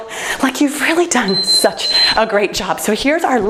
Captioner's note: timer beeps